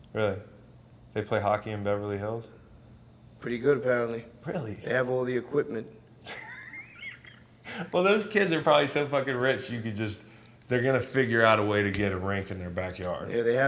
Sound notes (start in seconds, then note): 6.2 laughs